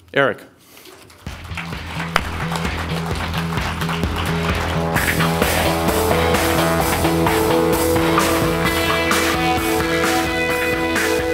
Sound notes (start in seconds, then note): 1.0 audience applauding; 5.0 lively electronic music